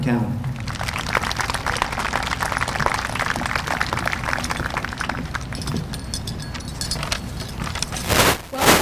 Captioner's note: applause